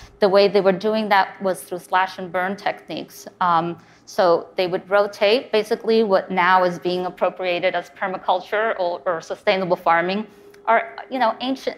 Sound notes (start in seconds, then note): none